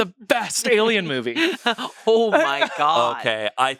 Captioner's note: chuckles